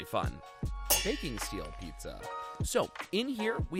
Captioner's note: metal clangs